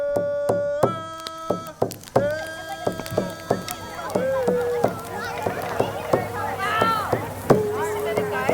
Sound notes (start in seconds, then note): 0.4 fire crackling; 2.1 children clamoring